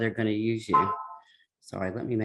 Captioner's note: phone chiming